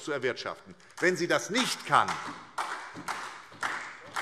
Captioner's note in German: Beifall SPD